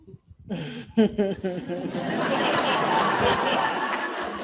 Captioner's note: all laughing